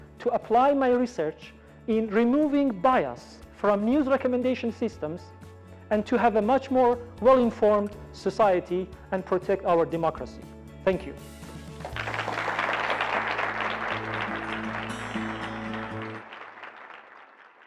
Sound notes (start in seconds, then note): 11.6 audience applauding; 13.5 gentle guitar music